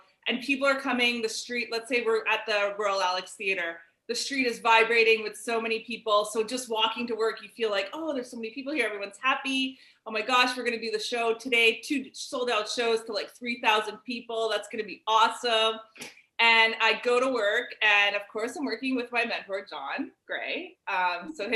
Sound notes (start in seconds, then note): none